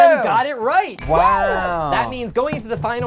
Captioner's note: bell dings